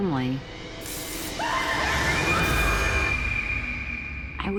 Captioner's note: screaming